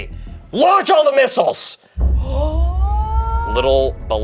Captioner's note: gasps